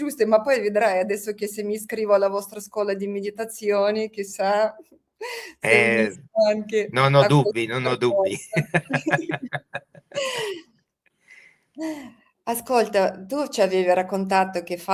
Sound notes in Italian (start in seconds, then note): 11.0 risate